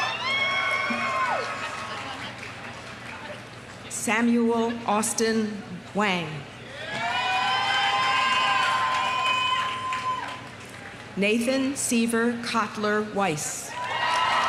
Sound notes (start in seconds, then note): 0.0 audience cheering; 0.0 audience applauding; 6.7 audience cheering; 6.8 audience applauding; 13.7 audience cheering; 13.7 audience applauding